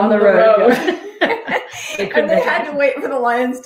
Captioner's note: all laughing